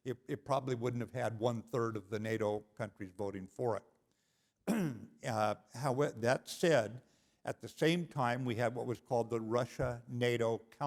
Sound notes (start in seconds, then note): 4.6 cough